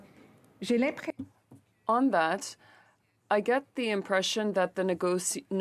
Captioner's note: speaking French